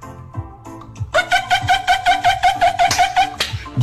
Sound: Penguin Noises

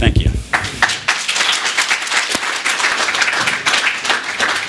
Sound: applause

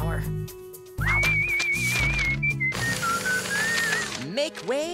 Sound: whistling

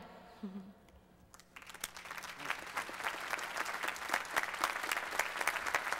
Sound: applause

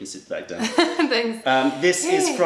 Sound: laughter

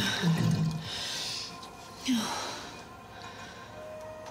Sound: breathes heavily

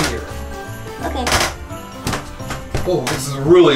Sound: wood creaking

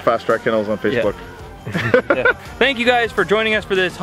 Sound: chuckling

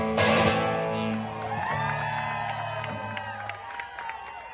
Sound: crowd applause

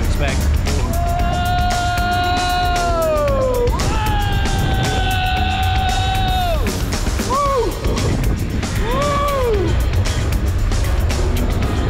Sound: yelling

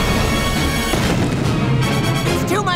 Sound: rumbling

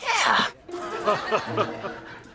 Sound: laughing

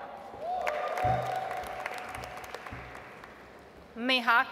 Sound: audience applauds

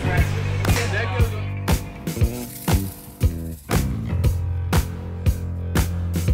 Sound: smooth music; crowd chattering

